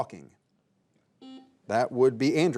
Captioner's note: buzzer buzzing